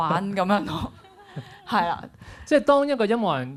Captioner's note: laughs